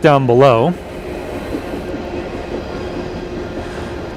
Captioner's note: sound of train